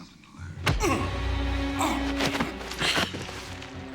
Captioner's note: Paris grunts